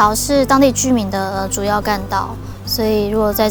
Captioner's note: traffic